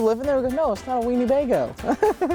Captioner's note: laughing